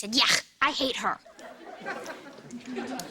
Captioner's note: audience laughter